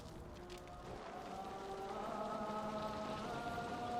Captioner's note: all chanting